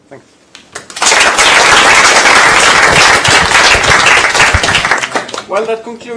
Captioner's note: applause